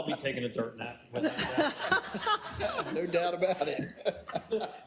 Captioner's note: laugh